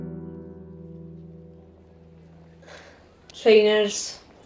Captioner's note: footsteps and voices come and go